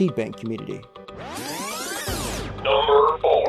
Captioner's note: electronic zipping